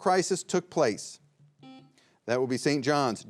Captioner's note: buzzer beeping